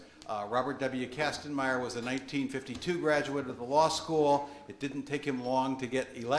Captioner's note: none